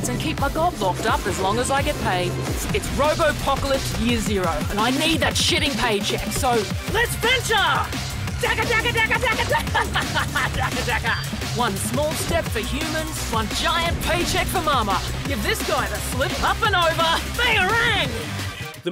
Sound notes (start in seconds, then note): 8.5 mimics machine gun then laughs